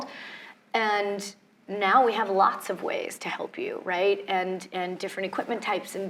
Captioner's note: none